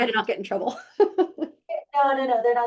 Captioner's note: laughing